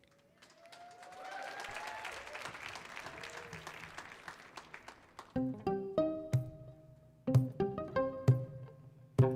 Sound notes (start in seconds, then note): 0.0 audience cheering and applauding; 5.6 gentle percussive music